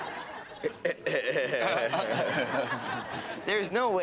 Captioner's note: audience laughs; Alex and Eddie chuckles